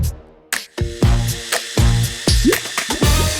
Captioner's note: blender whirring